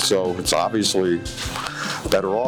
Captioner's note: lips smacking